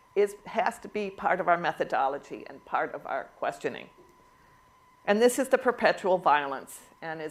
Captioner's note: none